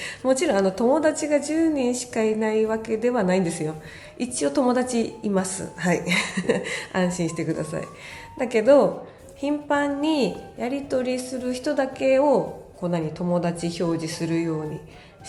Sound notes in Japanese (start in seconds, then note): 0.0 息をのむ音; 6.5 笑い